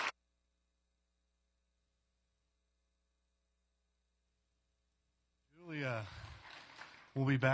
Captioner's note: applause